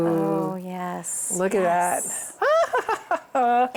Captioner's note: laughs